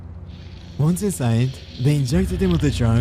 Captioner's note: syrringe squeezed